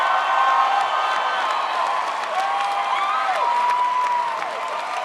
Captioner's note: crowd applauds